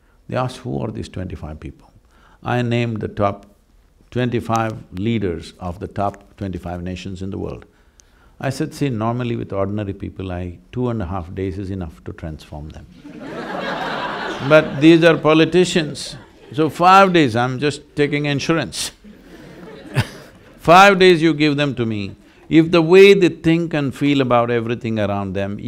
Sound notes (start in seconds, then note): 13.0 laughter; 19.0 laughs